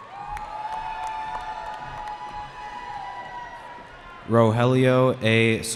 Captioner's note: cheering